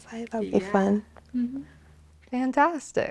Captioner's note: humming